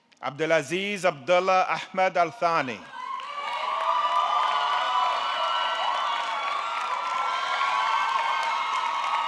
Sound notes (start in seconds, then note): 2.9 audience cheering; 3.0 audience clapping